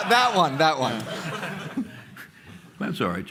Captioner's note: laughter